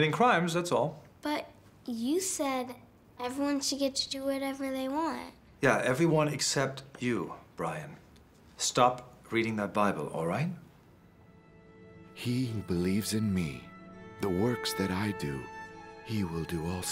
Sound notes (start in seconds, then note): none